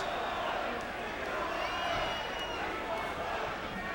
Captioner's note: crowd chattering